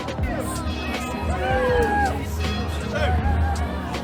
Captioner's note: cheering